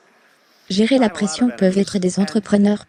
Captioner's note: audience laughing